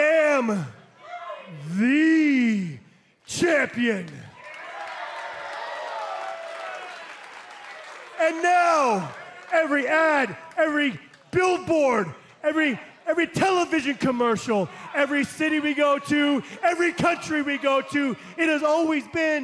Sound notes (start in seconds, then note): 4.1 cheers and applause